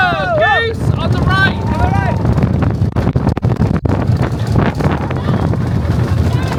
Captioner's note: wind whipping